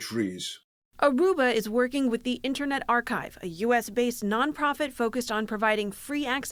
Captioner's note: voice-over